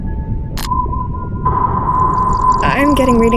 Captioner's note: machine wailing